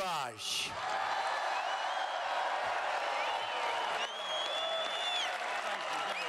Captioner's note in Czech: Potlesk